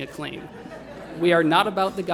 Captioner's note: laughter